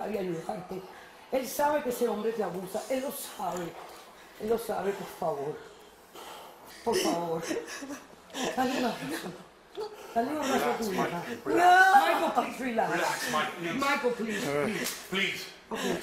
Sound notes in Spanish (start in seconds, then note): 9.7 solloza